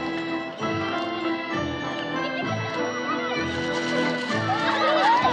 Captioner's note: giggling, laughing